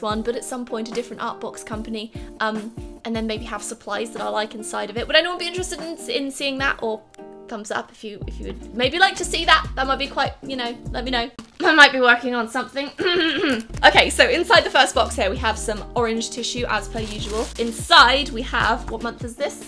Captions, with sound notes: but at some point a different art box company, um, and then maybe have supplies that I like inside of it, would anyone be interested in seeing that? Or... Thumbs up if you would maybe like to see that, that might be quite, you know... let me know. *Cough cough* I might be working on something. *Cough cough* Okay, so inside the first box here, we have some orange tissue as per usual. Inside we have - what month is this?